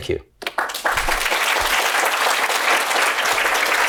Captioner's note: applause